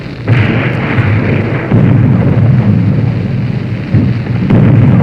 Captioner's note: explosions booming